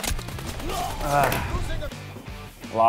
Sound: grunts

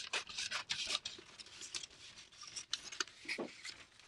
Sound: scissors cutting

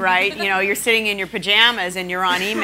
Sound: laughing

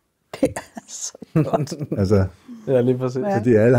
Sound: laughs

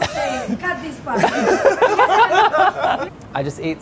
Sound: group laughing

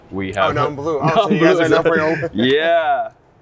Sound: laughs

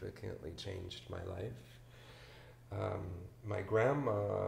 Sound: none

